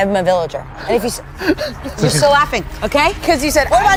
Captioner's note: laughs